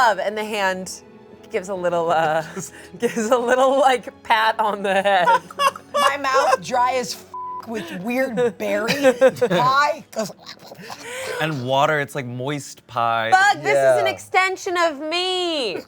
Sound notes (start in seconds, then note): 5.2 all laugh; 7.3 beep